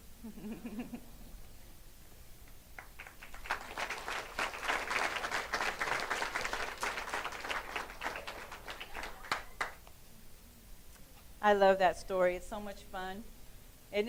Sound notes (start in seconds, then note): 0.2 laughing; 2.7 clapping